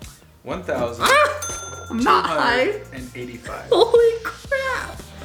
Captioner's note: male Voice